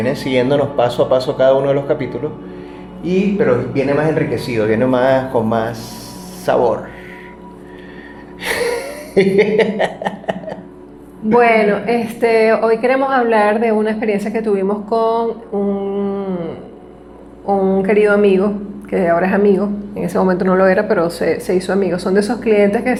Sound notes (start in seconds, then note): 8.4 laughs